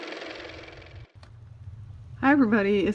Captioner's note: car motor